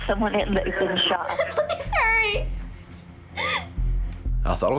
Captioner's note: crying